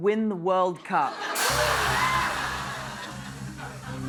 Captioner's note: laughter